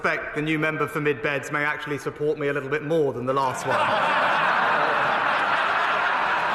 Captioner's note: laughter